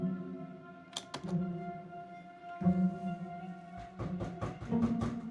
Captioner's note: keyboard clattering; knocking on door